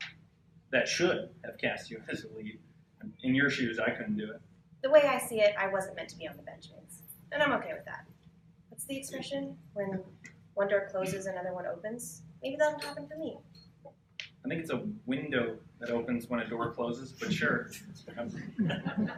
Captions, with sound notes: that should have cast you as the lead. In your shoes, I couldn't do it. The way I see it, I wasn't meant to be on the benches and I'm okay with that. What's the expression? When one door closes another one opens. Maybe that'll happen for me. I think it's a window that opens when a door closes but sure. (laughter)